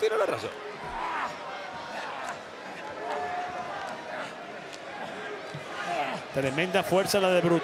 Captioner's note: applause